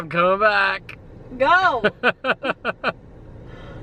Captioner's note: laughter